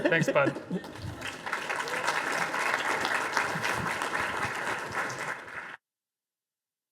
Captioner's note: audience applause